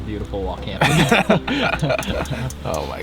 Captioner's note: both laugh